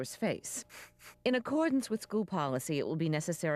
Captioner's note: sniffles